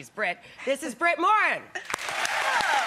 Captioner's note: applause